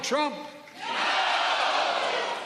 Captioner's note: cheers and applause